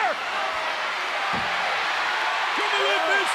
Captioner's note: audience cheers